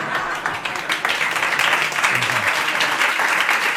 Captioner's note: laughter and applause